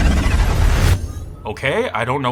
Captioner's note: mysterious interference